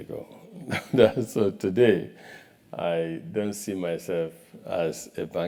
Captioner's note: laugh